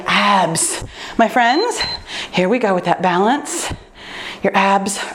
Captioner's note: timer beeps